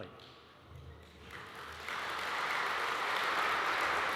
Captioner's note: audience applauds